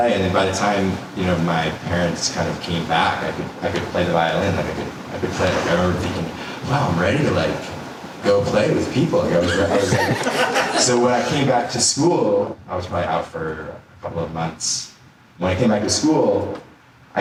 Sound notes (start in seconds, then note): 9.2 audience laughter